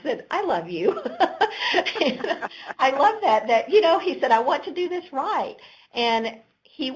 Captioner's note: chuckle